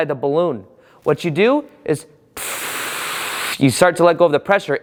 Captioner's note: blows out